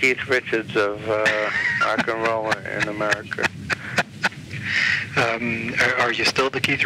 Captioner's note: laughs